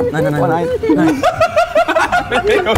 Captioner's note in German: Lachen